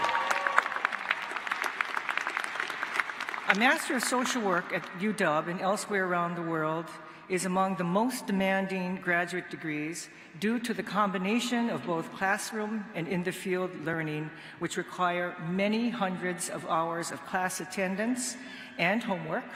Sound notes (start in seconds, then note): 3.2 applause